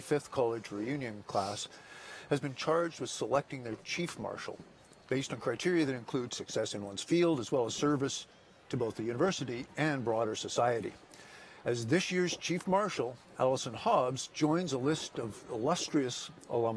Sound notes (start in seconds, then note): none